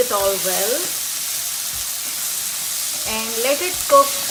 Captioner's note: pan sizzling